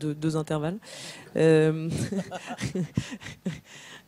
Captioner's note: laughs